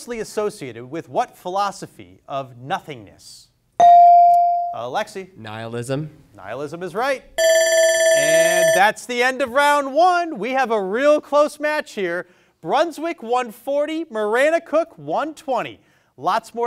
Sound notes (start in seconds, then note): 3.8 bell dings; 7.4 bell rings